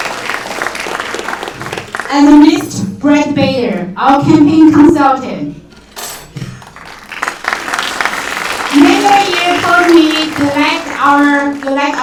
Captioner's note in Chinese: 掌声